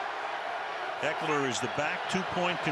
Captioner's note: cheering